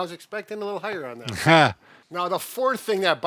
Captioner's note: chuckles